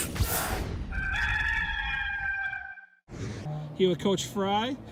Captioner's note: rooster crowing